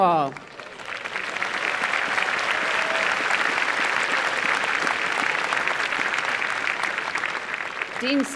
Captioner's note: applause